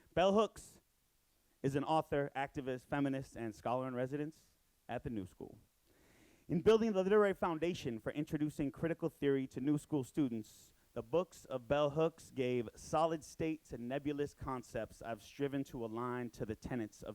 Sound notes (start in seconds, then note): none